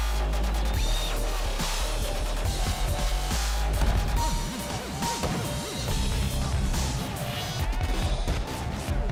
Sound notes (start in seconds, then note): 3.7 punches landing